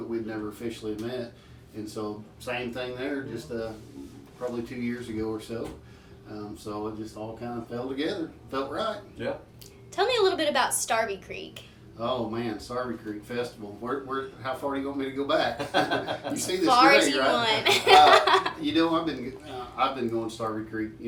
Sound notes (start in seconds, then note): 17.3 band laughing; 18.1 laughs